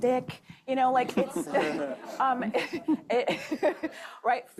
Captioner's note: laughter